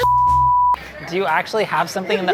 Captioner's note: beeping